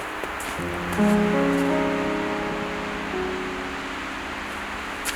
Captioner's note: wind blowing